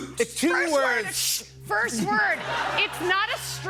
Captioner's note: laughter